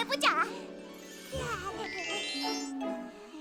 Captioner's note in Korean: 웃음소리